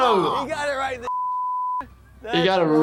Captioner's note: beep